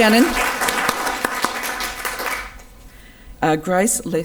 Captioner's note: audience applause can be heard